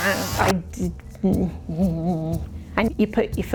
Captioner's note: sewing machine pedal noises; shudder